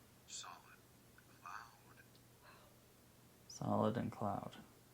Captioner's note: faint male voice speaking